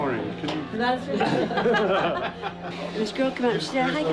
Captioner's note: laughing